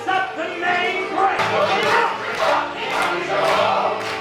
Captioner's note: clapping